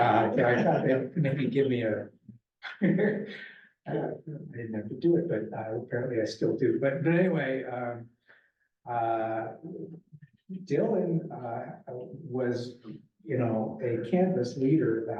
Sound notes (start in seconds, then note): 2.7 laughs